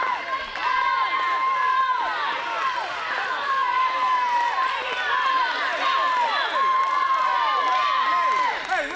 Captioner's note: crowd cheering